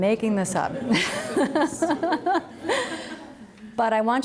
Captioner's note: all laugh